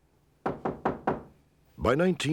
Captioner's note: knock on door